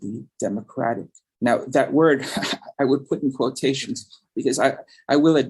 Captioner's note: chuckles